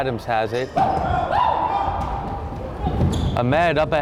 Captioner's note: crowd chattering and yelling